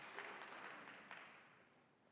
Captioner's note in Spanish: Aplausos